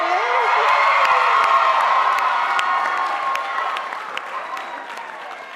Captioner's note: audience applauding